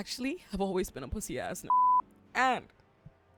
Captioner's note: beep